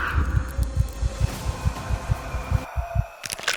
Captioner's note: ghostly breath; A sickening crunching sound as bone and cartilage tear apart